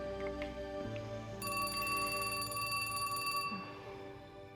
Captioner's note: telephone Ringing